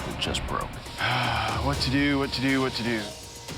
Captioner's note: sighs